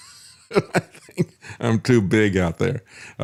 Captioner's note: laughs